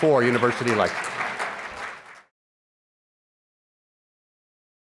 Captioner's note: applause